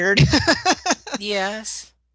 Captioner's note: laughter